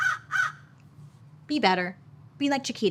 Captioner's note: Joan squawking